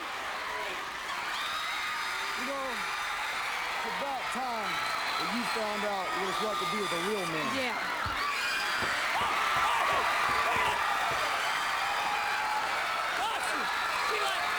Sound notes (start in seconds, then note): 12.9 crowd cheering